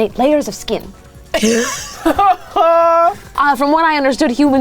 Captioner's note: wheezes